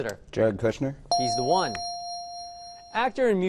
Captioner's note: correct answer chime